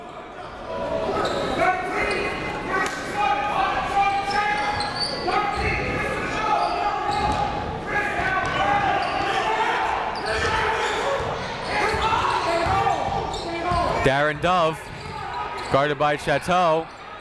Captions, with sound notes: (crowd talking) (coaches yelling) Darin Dove guarded by Chateau.